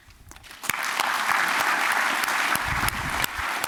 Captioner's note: applause